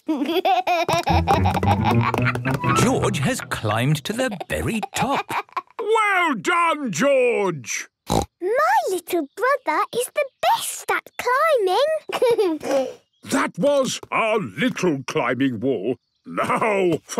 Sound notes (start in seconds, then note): 0.0 snorts, giggles; 8.1 snorts; 12.0 giggles